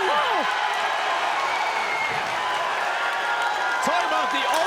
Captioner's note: crowd cheering